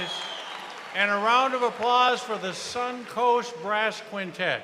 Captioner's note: cheers and applause